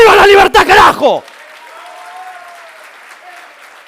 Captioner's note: applause